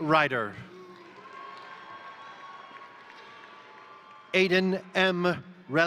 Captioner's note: crowd cheering; crowd applauding